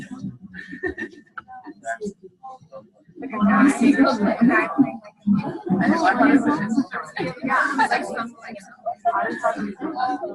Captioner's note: overlapping chatter